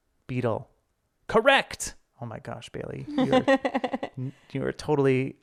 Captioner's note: laughing